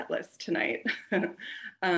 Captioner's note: chuckles